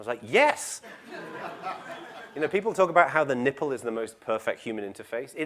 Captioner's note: laugh